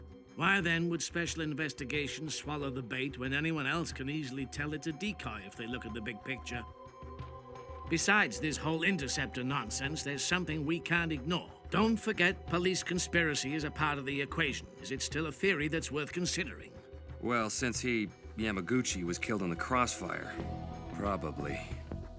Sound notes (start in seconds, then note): none